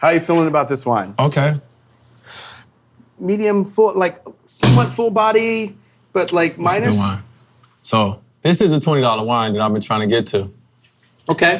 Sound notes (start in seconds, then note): 2.6 inhaling; 4.6 hand slamming